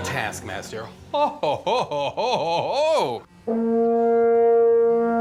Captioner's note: laughs sarcastically; plays horn